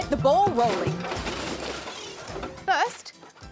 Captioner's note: crash!